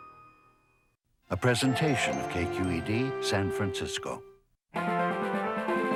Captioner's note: voiceover